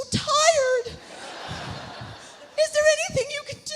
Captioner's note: audience laughs